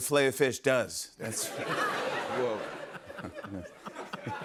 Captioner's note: laughter